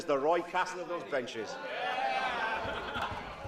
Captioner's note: laughter